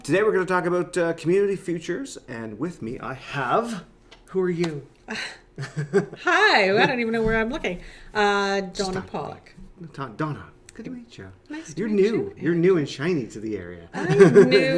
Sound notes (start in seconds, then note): 4.5 laughs